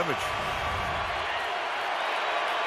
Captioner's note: cheering